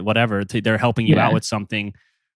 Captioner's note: laughs